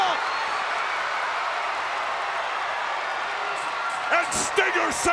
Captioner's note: crowd cheering